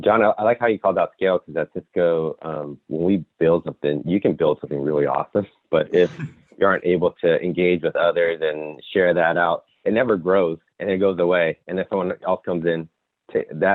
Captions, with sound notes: - John, I like how you called out scale. 'Cause that's Cisco, you can build something really awesome. (giggles) But if you aren't able to engage with others and share that out, it never grows, and it goes away. And if someone else comes in,